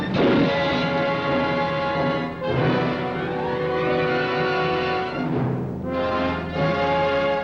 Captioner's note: dramatic orchestral music; grate slams